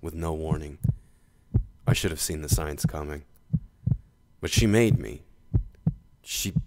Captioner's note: yelling